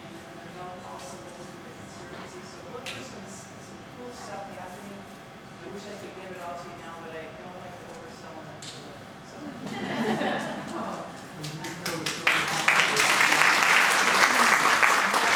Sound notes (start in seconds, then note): 9.6 audience laughing; 11.4 audience applauding